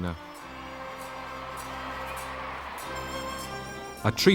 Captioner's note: cheering